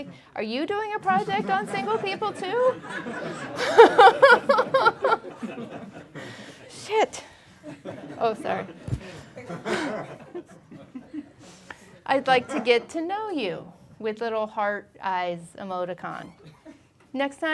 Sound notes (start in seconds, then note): 4.0 laughing; 8.3 laughing